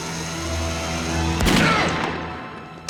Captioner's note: gun firing